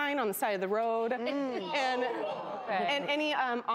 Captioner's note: audience groans